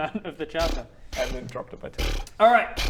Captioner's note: ungrateful noises